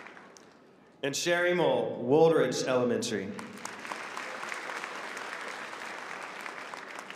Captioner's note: applause